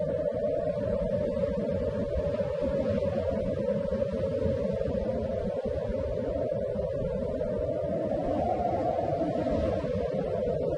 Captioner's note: wind blowing